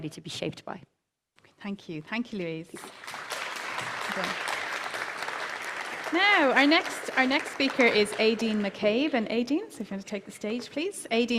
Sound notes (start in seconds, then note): 2.8 applause